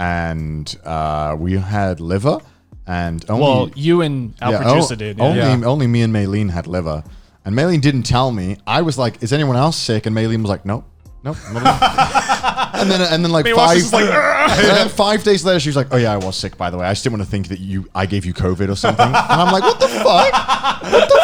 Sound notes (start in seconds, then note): 11.4 laughing; 18.8 Garnt laughs